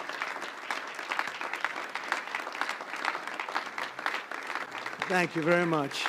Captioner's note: applause